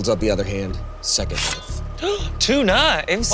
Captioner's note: gasps